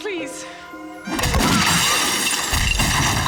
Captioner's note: gun bangs; glass shatters; Dexter groaning; dramatic music